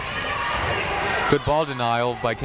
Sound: people shouting in the crowd

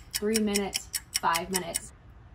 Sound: clock ticking

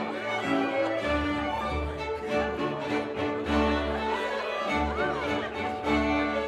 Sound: chattering

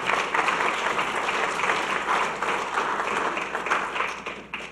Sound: audience clapping

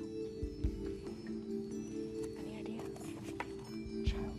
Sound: whispering; ethereal music

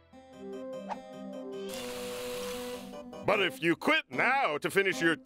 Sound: fizzing

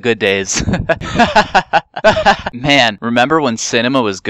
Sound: laughing while probably dying inside

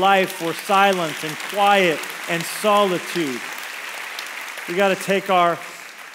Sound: congregation applauds

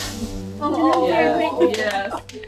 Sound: appluase

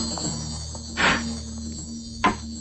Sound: chair creaks

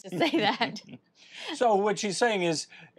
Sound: laughs

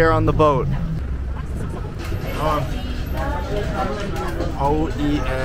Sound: people chattering; speaking in foreign language

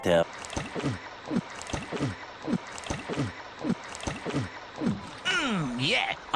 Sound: gulping noises

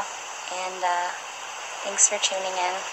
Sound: background ocean sounds

